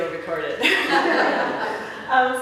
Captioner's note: laughter